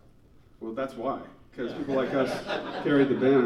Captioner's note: laughing